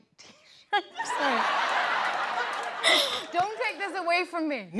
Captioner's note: laughs